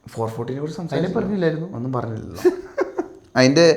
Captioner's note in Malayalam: പൊട്ടിച്ചിരി